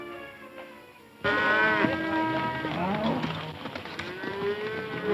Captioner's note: cows mooing